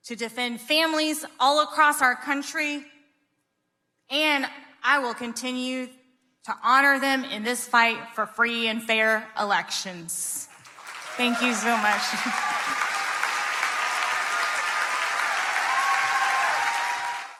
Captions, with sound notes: to defend families all across our country, and I will continue to honor them in this fight for free and fair elections. (audience clapping) Thank you so much. (audience cheering)